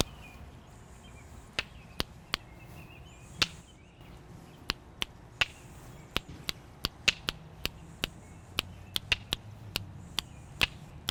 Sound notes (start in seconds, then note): 0.1 mouth clicking; 3.2 rocks clicking